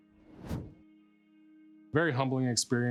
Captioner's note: text whooshing